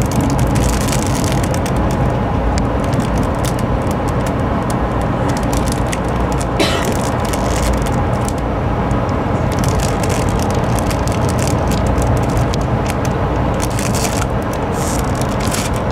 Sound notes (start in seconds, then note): 5.2 rips